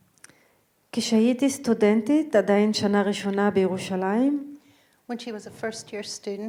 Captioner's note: speaking in foreign language